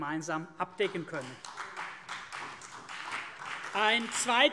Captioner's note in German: Beifall CDU und BÜNDNIS 90/DIE GRÜNEN